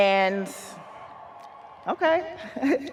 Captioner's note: audience cheering